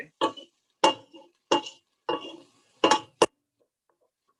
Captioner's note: pan clanging